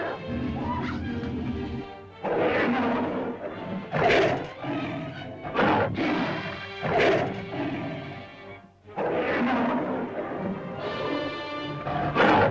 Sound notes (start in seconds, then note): 0.0 lizard growls; 0.4 cavepeople yelp; 1.9 lizard snarls & growls; 1.9 suspenseful music